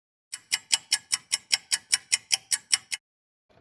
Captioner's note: sound of a ticking clock